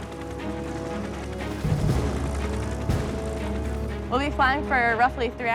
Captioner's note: dramatic music; helicopter blades thudding